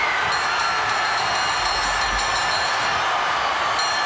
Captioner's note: bell rings